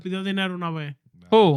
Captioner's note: speaking In Foreign Language